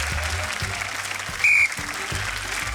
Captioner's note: blows whistle